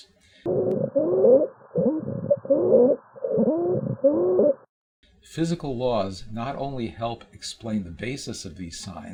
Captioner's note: sound of child labored breathing